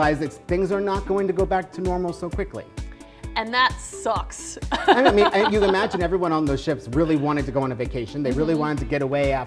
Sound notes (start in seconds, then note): 4.7 laughs